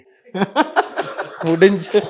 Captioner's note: amused laughter